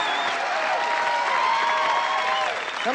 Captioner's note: applause